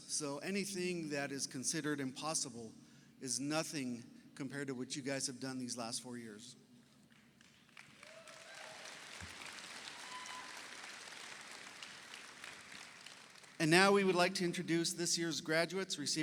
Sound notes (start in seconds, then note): 7.4 audience applauds; 7.9 audience cheers